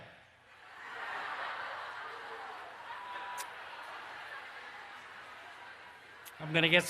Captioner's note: laughter